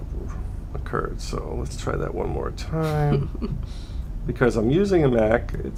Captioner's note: laughter